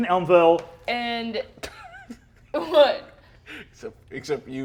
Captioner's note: laughs